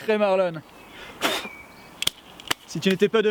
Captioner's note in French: Bruit de crachat